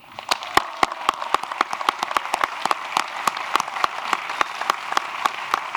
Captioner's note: applause